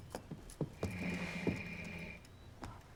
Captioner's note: growling